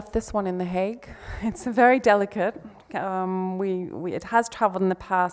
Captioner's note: laughs